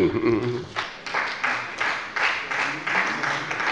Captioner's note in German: Beifall bei der SPD